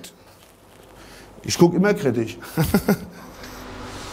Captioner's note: he laughs